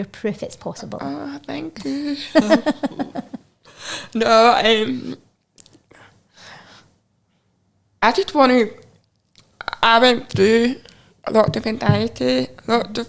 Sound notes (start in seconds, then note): 1.8 chuckling